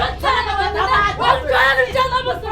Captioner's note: arguing